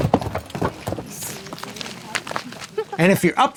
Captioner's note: feet crunching; people talking